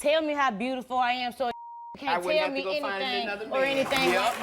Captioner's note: beep